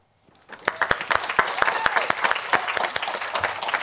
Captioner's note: applause